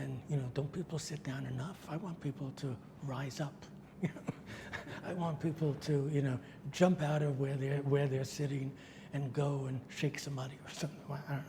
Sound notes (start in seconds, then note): 3.9 laughs